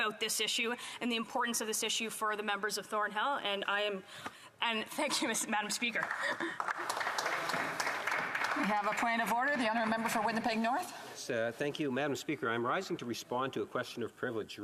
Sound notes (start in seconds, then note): 9.5 some Applause